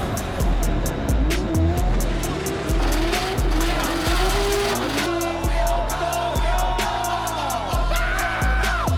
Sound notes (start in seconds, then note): 5.1 cheering